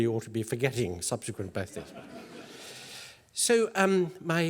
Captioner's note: laugh